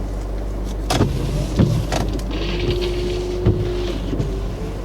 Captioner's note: wipers whirring